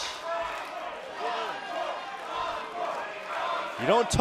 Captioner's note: crowd cheering